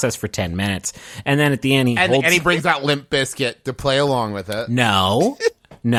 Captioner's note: laughing